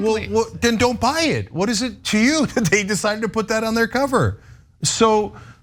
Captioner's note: laugh